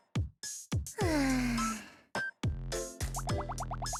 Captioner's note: sigh